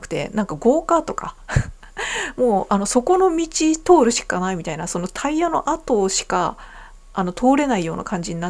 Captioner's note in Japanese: 笑い